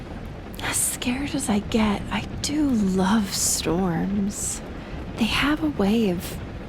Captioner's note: rain patters and you can hear her soft breathing